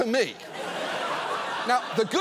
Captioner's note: studio audience laughing